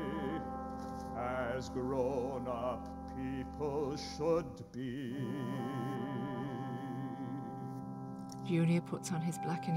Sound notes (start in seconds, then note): 2.9 phone rings